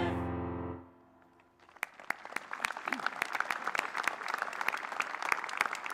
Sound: applause

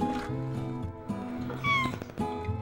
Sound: meow!

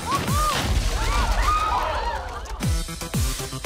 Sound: crash, thud; thud; crowd gasps

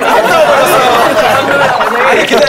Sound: ahahahahaha

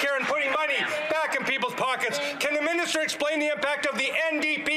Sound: some Applause

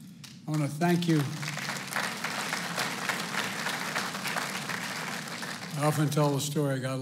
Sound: applause

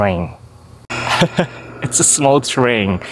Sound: chuckles

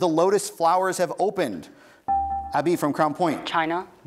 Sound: buzzer beeps

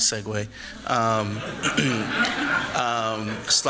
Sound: laughter

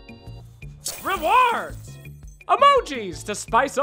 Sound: light melodic music; glass shattering

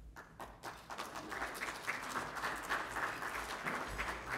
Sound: audience applauding

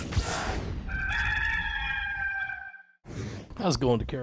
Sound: rooster crowing

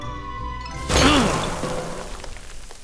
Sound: groans

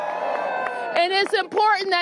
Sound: applause

